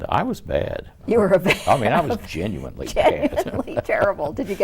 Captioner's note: laughing; laughs